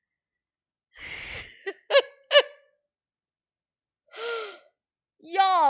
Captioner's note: more excited laughter